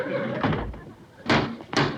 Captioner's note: banging continues